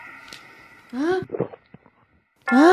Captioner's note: inhale